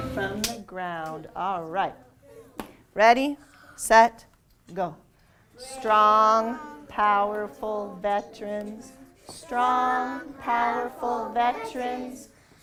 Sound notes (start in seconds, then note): 5.3 choral reading